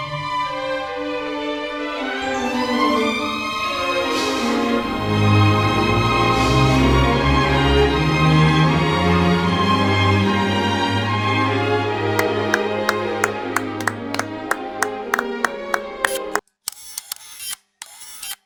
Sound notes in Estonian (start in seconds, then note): 9.7 Aplaus